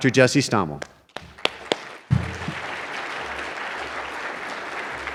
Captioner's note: applause